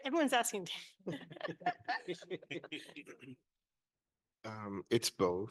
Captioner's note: panelists laughing